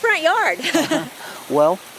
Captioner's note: chuckling